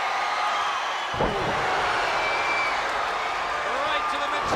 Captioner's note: spectators cheering; Dustin thuds